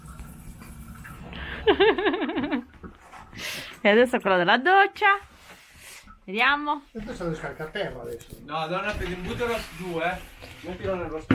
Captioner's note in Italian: Risate